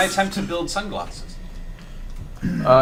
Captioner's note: all laugh